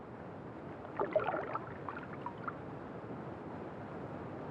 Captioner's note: water gurgling